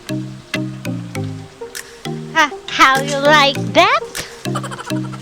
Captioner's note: laughing